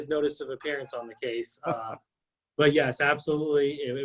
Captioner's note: laughs